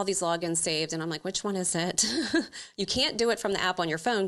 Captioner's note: chuckles